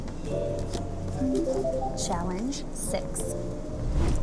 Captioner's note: upbeat tone chiming